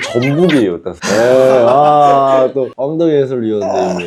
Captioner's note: ahhhhh